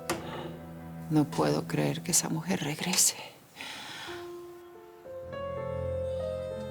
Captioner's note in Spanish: Toque suave a la puerta